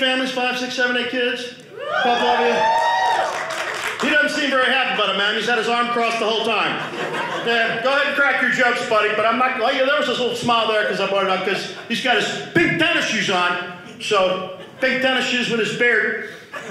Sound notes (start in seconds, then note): 1.7 audience cheering